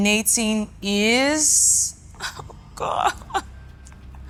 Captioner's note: laughs